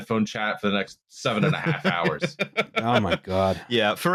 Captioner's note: laughs